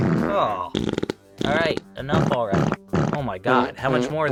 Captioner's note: more fart noises